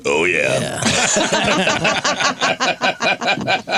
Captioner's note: laughter